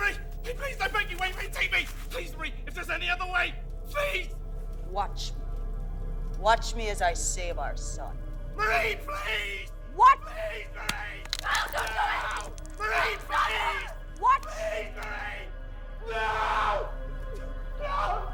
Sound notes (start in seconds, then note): 9.2 tense music continues; 11.4 Yvonne screaming; 15.8 tense music continues